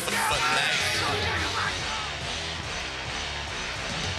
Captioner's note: crowd chatter